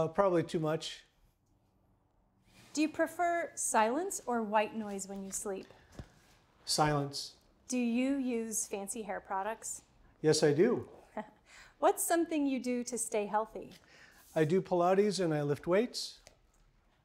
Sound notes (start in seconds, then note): 11.0 chuckles